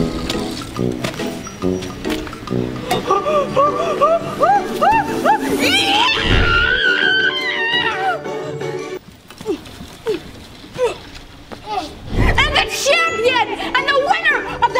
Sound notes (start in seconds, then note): 0.0 silly music playing; 2.8 gasping; 10.8 grunting